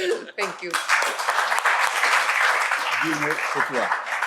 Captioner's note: applause